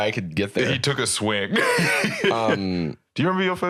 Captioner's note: laughs